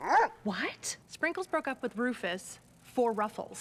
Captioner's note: bark